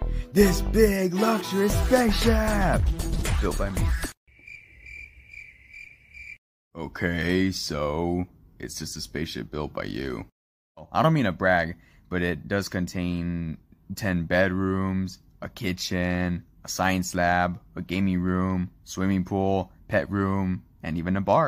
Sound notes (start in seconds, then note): 4.1 total silence